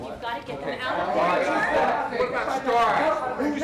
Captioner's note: all shouting